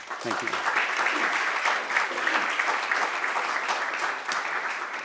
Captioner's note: applause